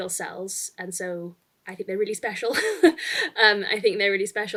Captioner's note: chuckles